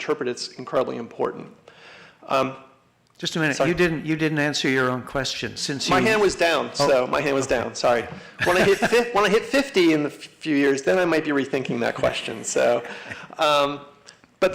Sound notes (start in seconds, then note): 8.3 laughter; 11.5 laughing